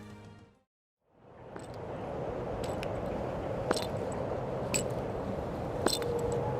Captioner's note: spurs jangling; wind whistling